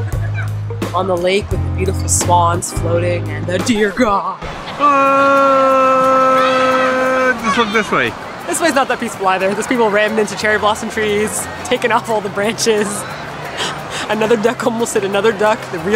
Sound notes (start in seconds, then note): 3.6 reprise: record scratching; 12.5 giggles